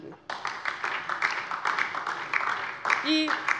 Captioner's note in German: Beifall DIE LINKE